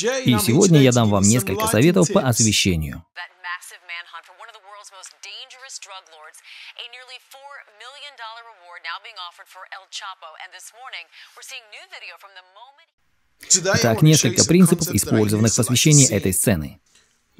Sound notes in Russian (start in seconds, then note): 3.2 Звук работающего телевизора